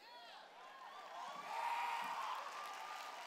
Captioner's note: cheers